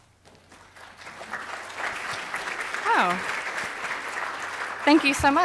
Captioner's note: applause